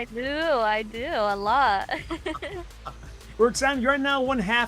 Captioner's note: laugh